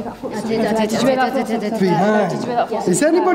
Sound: exclaiming

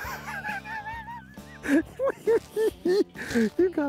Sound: laughing

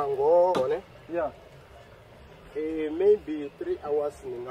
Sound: insects buzzing

